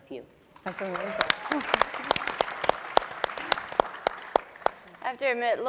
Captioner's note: audience and panelists applauding